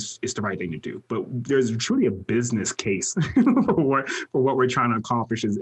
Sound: laughs

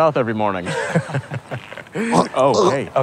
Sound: chuckling; chokes, gurgles

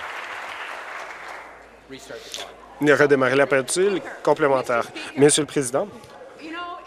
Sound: applause

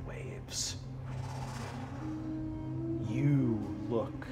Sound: mimics wind oscillating

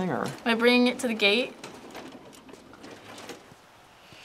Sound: wheels squeak

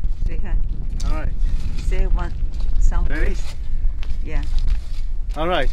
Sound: woman speaks in a foreign language

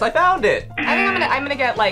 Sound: buzzer

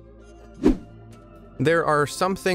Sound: video whooshing

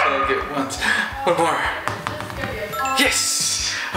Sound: gasp

